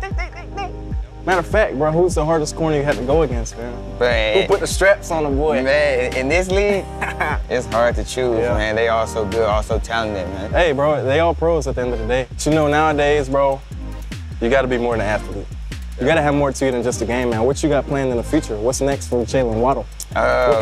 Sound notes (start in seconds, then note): 6.6 laughs